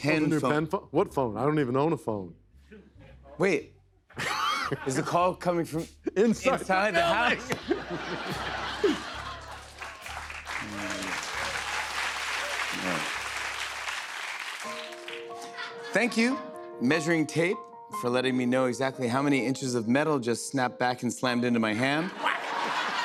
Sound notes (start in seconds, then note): 6.9 laughter; 11.1 cheers and applause; 14.3 soft music plays